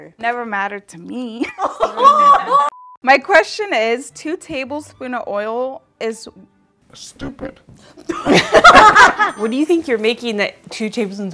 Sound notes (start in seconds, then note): 8.1 everyone laughing